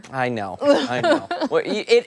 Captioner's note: laughter